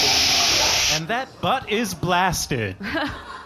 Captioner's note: blasting